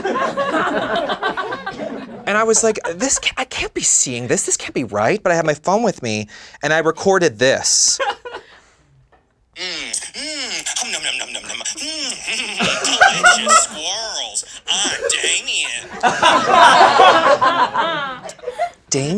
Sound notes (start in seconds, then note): 0.0 laughing; 9.5 satisfied moaning; 16.2 laughing